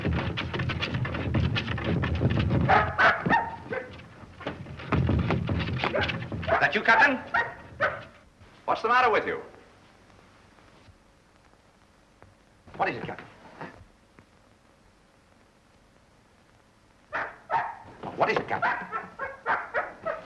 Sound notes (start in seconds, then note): 2.6 barking; 3.8 door rattles